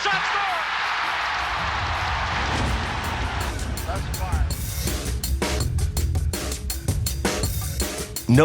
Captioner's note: crowd cheers